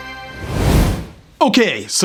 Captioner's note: air whooshing